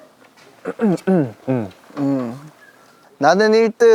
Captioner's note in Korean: 크흠